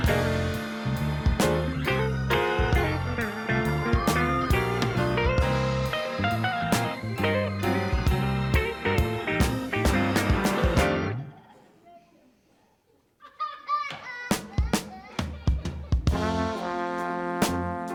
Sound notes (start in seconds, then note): 0.1 soulful music continues; 8.2 soulful music continues; 13.1 child laughs; 14.4 soulful music continues